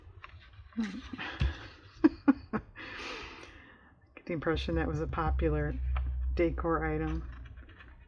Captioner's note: laughs